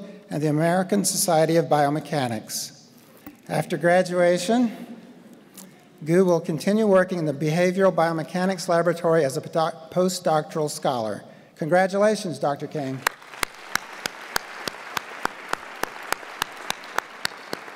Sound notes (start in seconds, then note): 13.0 audience applaud